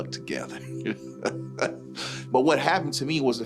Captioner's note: laughing